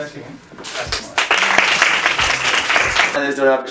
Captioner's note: applause